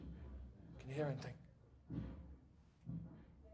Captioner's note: a woman shouting